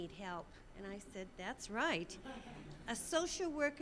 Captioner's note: audience laughing